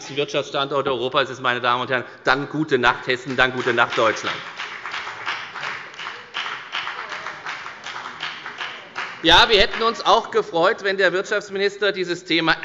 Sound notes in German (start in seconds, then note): 6.5 Beifall bei der FDP